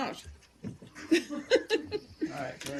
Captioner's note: laughter